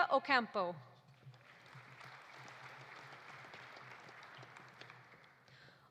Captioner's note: audience applauding